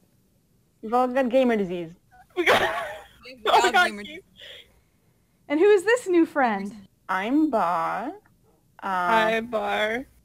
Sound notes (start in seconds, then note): 2.9 wheeze